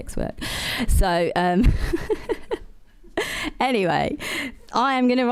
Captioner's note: laughter